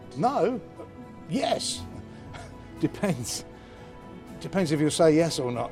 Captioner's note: laughs